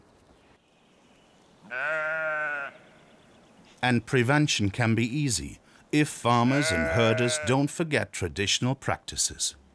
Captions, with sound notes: (sheep bleats) And prevention can be easy if farmers and herders don't forget traditional practices.